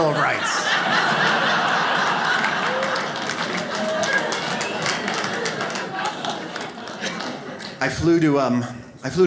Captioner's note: audience laughs